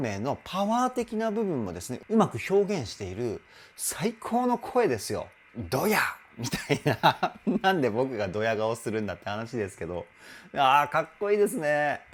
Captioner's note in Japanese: 笑い